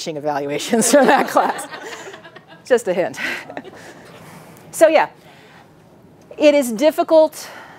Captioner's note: audience laughing